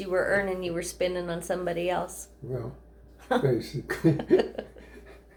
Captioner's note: laughter